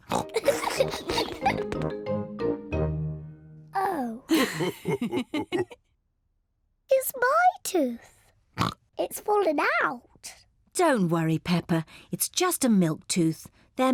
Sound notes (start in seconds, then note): 0.0 oinks and giggles; 4.3 both laugh; 8.6 oinks